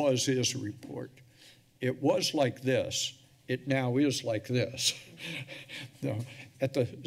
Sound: chuckles

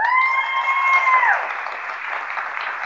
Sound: applause

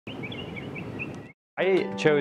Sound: birds tweeting

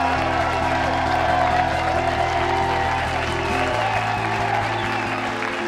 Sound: people cheer and clap hands

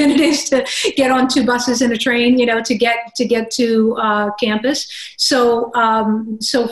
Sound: laugh

